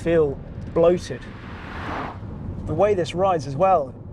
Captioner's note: car roaring